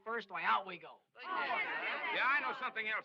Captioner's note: crowd jeering